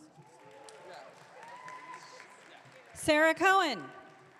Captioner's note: audience cheering